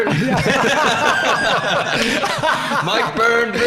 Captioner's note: laughing